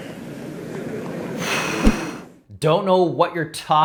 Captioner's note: sharp inhale